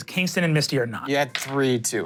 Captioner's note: dice rolling